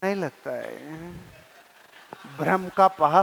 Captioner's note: laughing